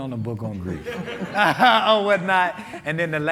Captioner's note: all laughing